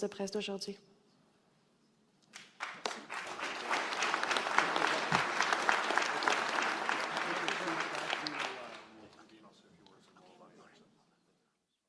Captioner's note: speaking French; applause